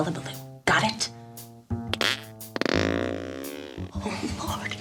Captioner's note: sound of Flatulence